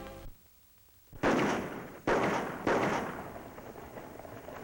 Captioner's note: gun shots